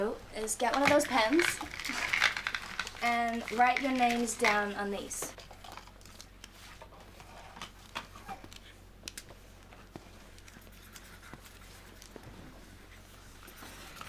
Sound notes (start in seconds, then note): 7.4 pens scritching